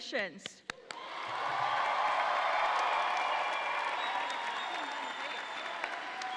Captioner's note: audience applauds and cheers